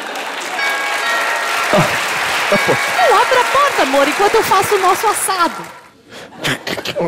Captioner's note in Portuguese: campainha